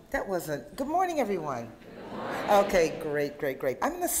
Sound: audience replies, Good Morning

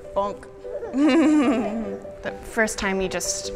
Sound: woman and child laughing

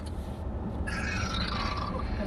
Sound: burps

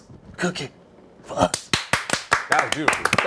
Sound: applause

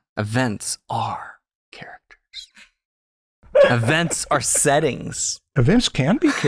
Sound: chuckles

